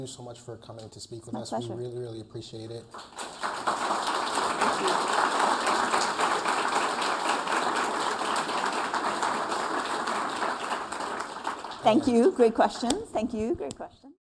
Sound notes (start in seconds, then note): 2.7 applause